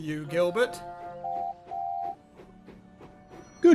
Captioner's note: duck whistles